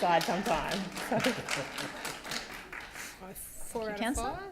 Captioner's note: gallery applauding